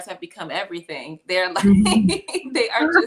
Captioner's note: laughter